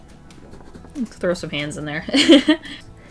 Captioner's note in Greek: Γέλια